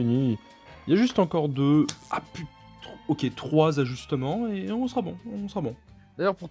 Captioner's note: electric shock